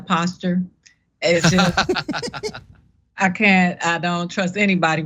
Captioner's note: laugh